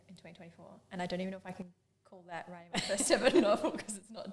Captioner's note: both laugh